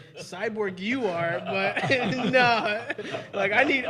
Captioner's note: all laughing; laughing